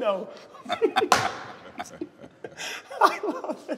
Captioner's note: laughing